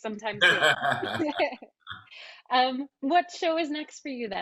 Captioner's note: both laughing